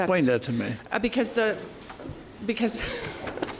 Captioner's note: laughs